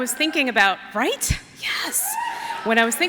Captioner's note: cheers